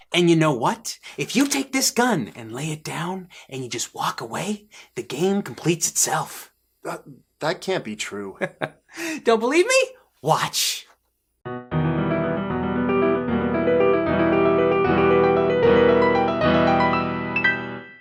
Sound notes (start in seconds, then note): 8.4 chuckles; 11.4 piano music